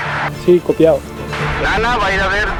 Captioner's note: in spanish